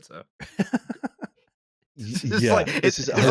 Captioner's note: laughs